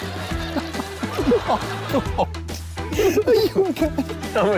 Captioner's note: laughs